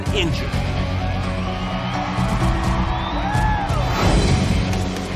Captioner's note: crowd cheers